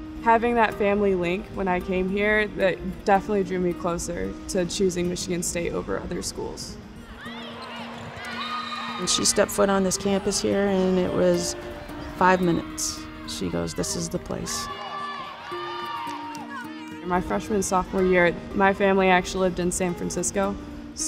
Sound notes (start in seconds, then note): 6.7 players shout; 8.3 whistle blows; 14.8 women shout and cheer; 15.4 gentle guitar music